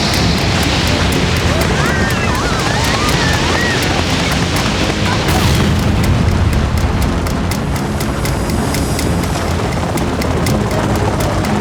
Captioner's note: crashing; yelling